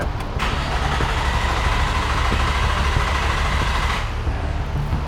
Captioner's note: car engine turning over